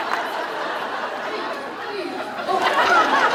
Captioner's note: laughs